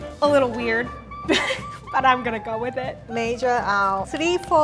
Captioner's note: laughs